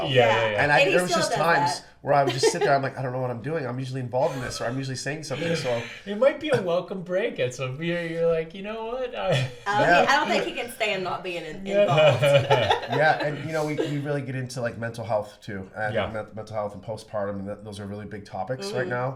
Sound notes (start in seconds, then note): 9.3 laughs; 11.8 laughs